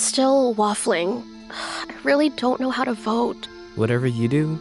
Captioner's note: sighs